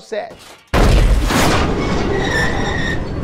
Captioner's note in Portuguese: Som de acidente de carro